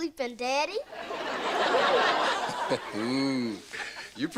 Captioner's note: audience laughter